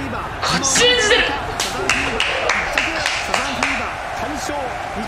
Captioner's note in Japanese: 拍手